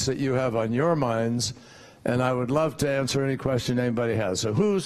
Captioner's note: none